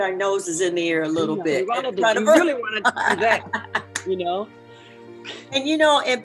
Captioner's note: laughing